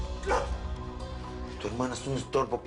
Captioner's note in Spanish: Quejidos